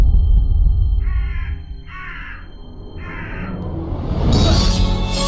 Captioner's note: bird caws